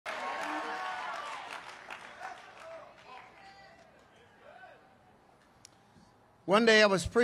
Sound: congregation cheers

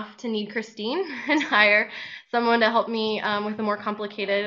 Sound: laughing

